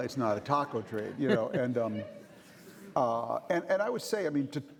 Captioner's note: chuckling